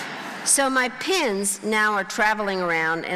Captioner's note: crowd laughing